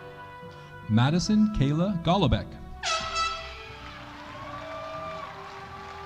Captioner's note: horn blowing; audience cheering